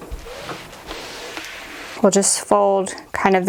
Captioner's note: scraping